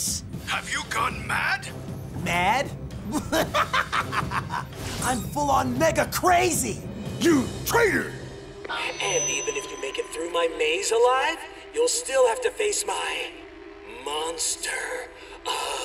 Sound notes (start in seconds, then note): 3.0 maniacal laughter